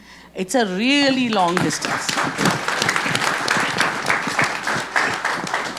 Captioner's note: audience clapping